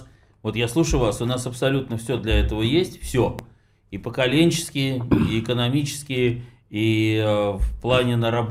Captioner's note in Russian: откашливается